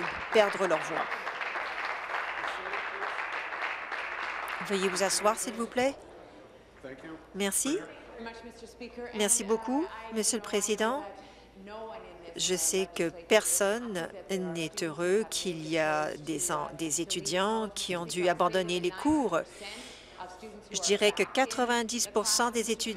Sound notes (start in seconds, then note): 4.7 applause